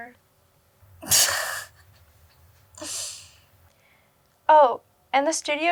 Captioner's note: Joy chuckles